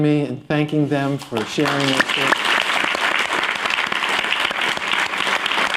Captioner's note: applause